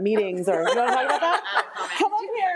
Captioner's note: attendees chuckling